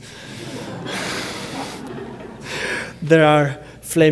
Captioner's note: laughter